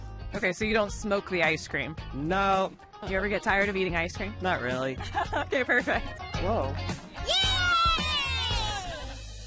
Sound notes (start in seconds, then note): 5.0 chuckling